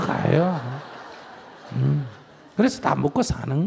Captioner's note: audience Laughter